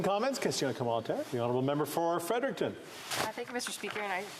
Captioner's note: applause